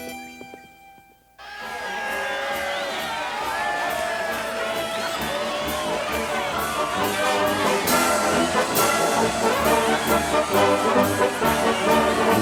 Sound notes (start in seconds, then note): 1.4 townsfolk cheer; 1.6 cheerful marching band music